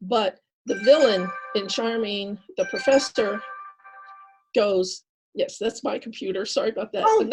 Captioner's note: computer alarm